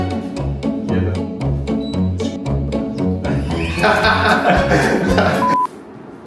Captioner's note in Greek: γέλια